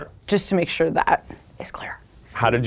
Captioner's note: none